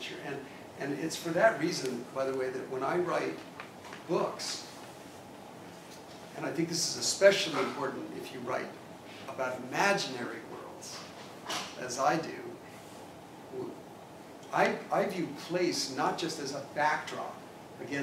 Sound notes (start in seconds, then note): none